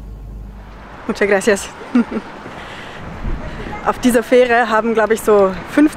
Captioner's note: in Spanish